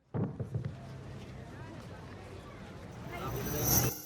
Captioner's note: crowd murmuring